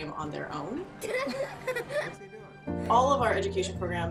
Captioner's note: girl laughs